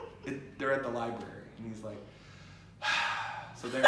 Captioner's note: exhale